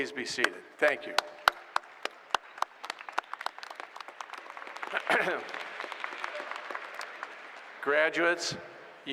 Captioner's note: applause